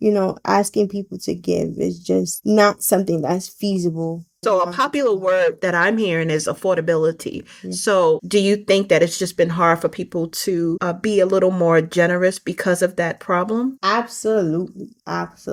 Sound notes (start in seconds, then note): none